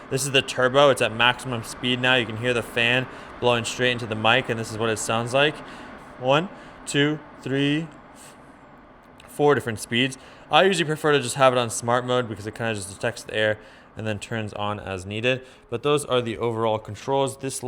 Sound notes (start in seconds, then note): 5.7 fan whooshing